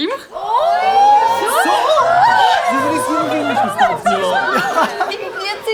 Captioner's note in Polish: Radosna wrzawa